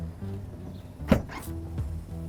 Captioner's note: trunk unlatches